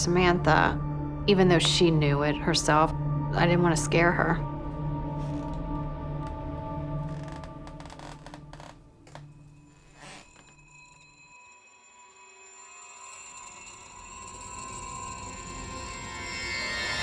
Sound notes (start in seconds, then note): 6.9 creaking; 13.9 suspenseful music